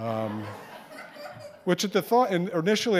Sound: audience laughing

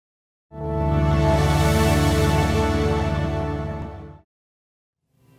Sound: glowing sound effect

